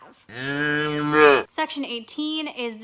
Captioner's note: cow mooing